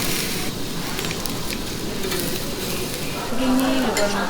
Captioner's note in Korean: 지글 지글